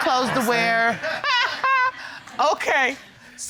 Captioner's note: audience laughing; judge laughs